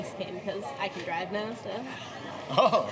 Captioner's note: chuckles